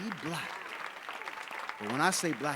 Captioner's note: audience applauding